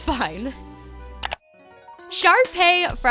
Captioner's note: clicking